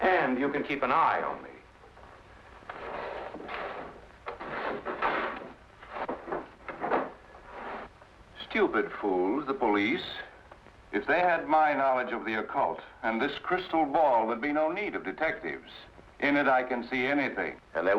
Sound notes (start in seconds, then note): none